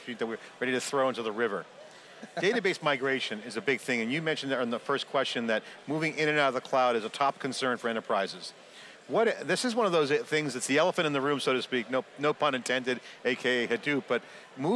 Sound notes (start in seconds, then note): 2.2 laughs